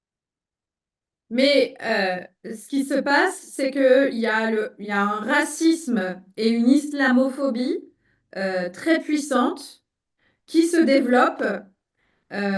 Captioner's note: speaking in French